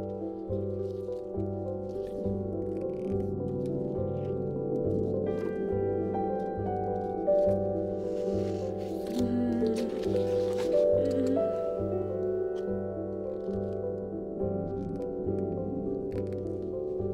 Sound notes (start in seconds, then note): 8.9 groans